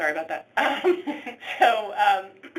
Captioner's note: laughing